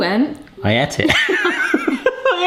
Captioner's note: laughs